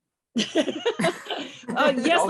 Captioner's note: laughs